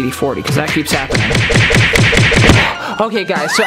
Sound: repeated slapping sounds

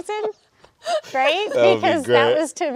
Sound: people laughing

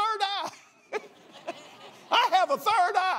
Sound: laughs

